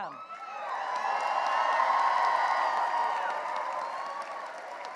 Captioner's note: cheering and applause